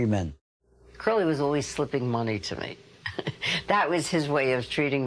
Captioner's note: chuckling